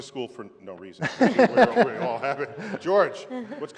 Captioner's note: laughter